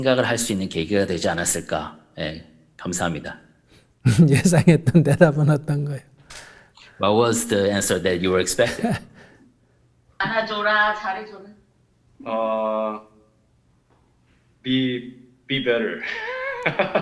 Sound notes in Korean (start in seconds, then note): 8.7 스님 웃음